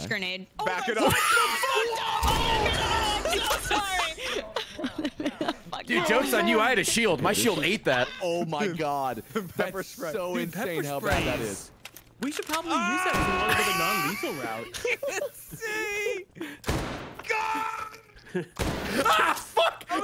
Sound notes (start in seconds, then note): 1.0 everyone screaming; 2.6 laughs; 17.2 screaming; 18.0 laughs